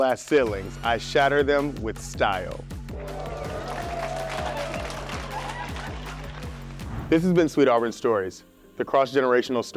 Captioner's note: applause